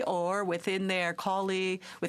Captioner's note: speaking French